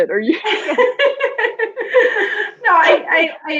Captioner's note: laughing